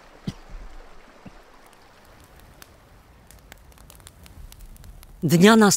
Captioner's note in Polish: dźwięk palonych drew